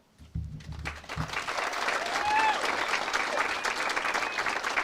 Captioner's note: audience cheers and applauds